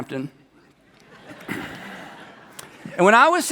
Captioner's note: people laugh